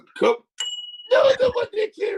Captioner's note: bell rings